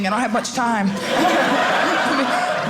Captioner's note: audience laughing